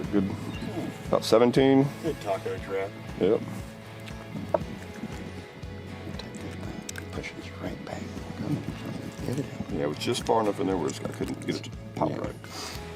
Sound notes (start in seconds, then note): 7.5 whispers